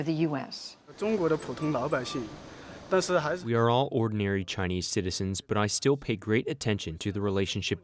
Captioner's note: through translator